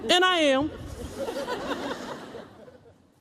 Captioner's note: laughter